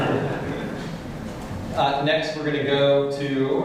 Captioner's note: laughter